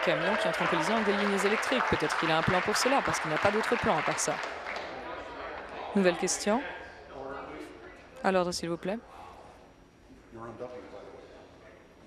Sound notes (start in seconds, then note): 3.8 applause